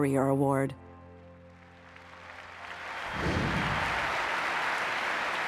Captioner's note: audience clapping